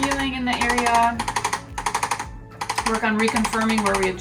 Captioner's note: device clicking